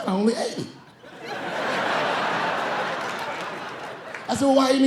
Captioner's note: laughing